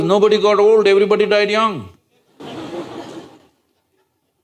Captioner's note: laughter